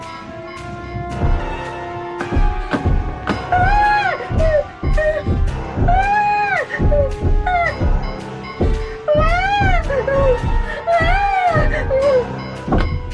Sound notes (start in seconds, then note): 2.2 banging on window; 3.5 Barbra whimpering; 9.0 Barbra yelping